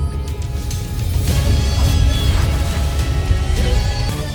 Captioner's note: weapons swooshing